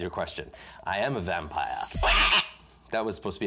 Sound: cackles

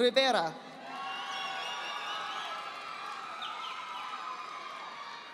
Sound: audience applauding

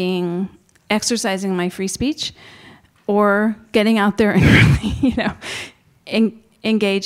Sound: chuckles

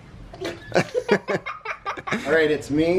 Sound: laughing

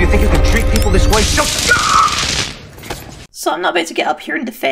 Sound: zappp

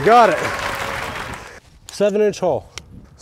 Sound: applause sound effect

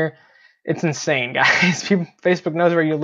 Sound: chuckles

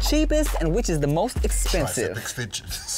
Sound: both laughing

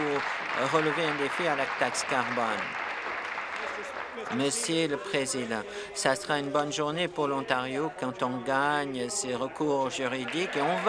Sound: applause

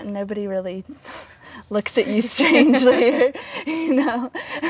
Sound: laughter

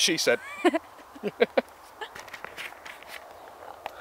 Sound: laughter

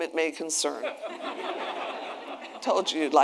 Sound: attendees laughing

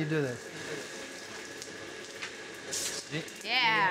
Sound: coal clattering

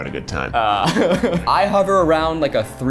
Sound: laughing

